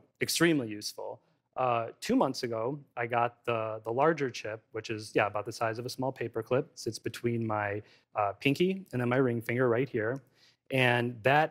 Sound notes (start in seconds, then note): none